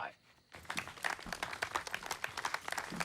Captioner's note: clapping